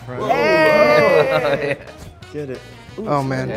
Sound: group cheers

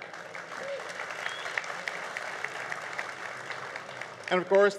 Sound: crowd applause

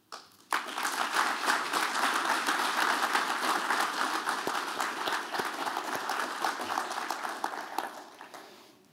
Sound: applause

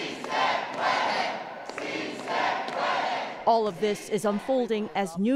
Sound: chanting

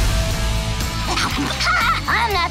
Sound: laughing

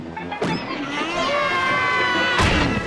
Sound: screaming; carnival music playing

